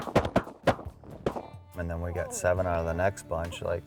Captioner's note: gunshots